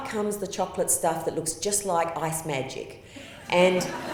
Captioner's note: laughter